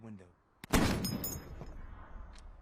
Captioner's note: shot